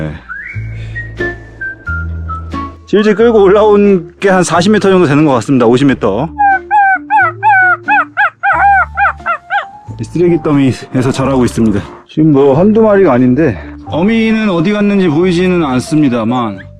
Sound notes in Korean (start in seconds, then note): 6.4 강아지 낑낑 거리는 소리